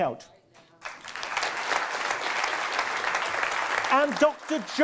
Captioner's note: audience applause